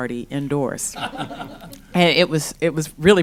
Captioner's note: laughter